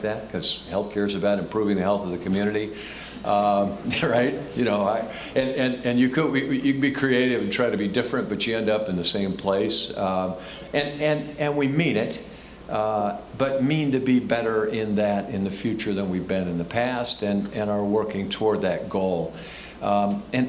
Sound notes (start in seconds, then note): 3.8 laughing